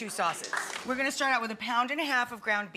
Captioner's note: audience applause